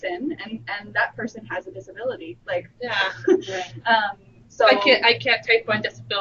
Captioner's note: chuckles